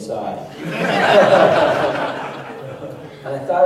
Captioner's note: laughter